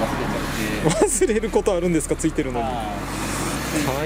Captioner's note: laughs